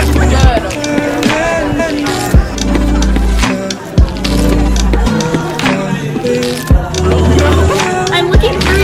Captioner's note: indistinct Crowd Chatter